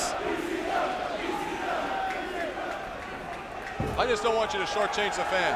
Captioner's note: audience chanting